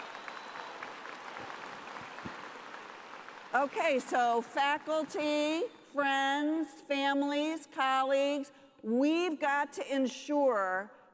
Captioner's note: cheers and applause